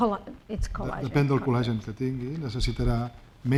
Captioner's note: speaking spanish